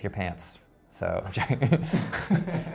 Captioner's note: laughs